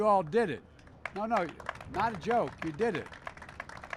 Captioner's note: applause